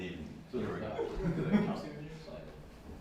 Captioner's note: laughing